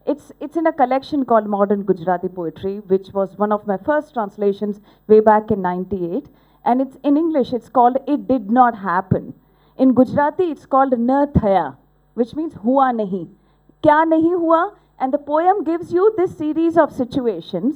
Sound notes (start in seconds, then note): 11.1 speaking gujurati; 13.2 non-english speech